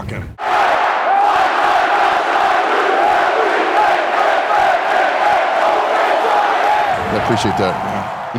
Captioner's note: crowds cheering